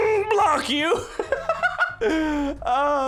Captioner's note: laughs